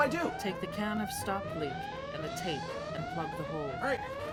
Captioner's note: computer Voice